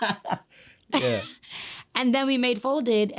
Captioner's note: chuckles; laughing